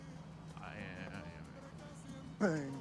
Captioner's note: mutters